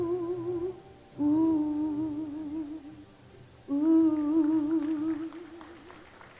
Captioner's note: applause